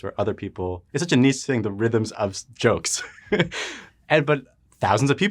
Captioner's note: laughs